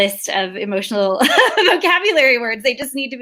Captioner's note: laughs